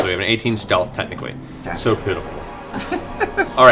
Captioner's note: sarcastically